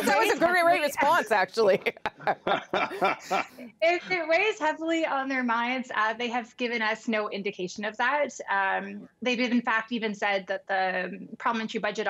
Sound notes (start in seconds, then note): 0.0 laughter; 1.6 laughter